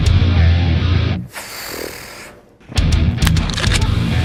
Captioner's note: intense rock music continues; exhales; intense rock music continues